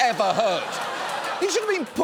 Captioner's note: audience laughs